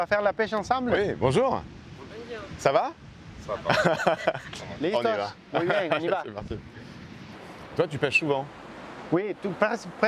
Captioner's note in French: rires